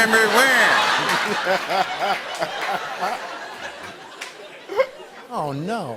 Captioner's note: laughter